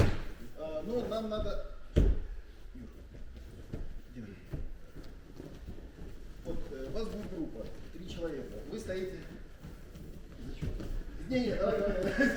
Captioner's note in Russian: смех